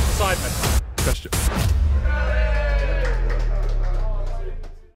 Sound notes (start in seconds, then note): 2.6 sparse clapping